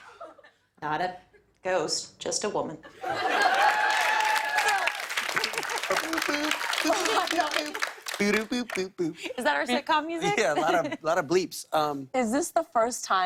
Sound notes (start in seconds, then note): 2.9 laughter; 3.2 cheers and applause